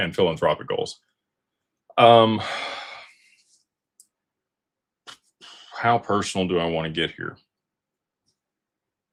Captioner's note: sighs